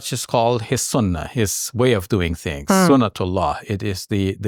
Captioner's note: speaks Arabic; speaks Arabic